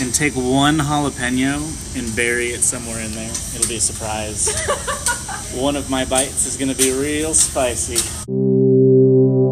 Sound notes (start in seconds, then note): 4.4 laughing heartily; 8.2 synth drone